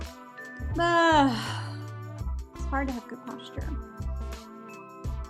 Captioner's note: sighs; upbeat music